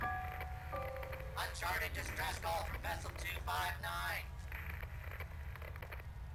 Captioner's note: radio Voice